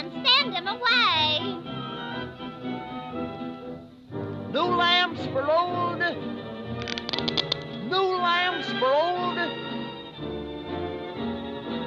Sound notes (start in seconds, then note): 7.2 wheel barrow creaking